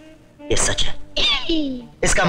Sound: groaning

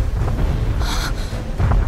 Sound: gasps in Japanese

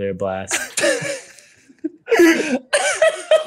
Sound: laughing

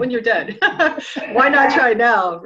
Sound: laughing

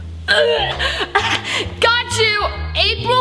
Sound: gags

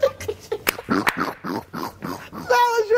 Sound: all laughing; snort laughing

